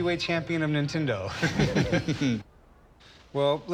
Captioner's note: both laugh